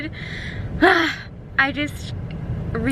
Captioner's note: exited sigh